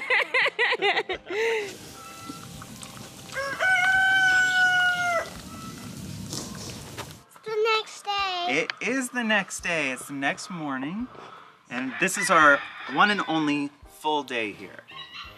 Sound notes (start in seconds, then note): 0.0 laughs; 3.2 rooster crow